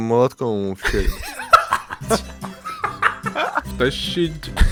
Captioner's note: laugh